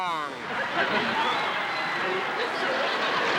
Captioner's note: laughter; cheering